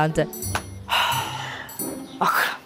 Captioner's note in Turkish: Nefes sesi